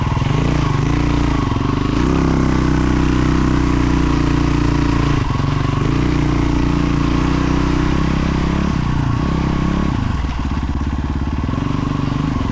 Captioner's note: engine revving